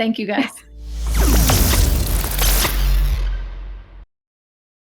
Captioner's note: sizzling tone